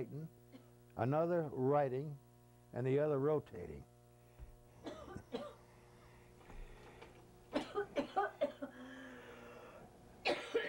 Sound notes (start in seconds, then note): 4.4 audio interruption with coughing